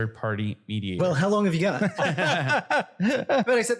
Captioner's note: laugh